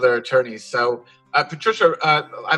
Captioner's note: chuckles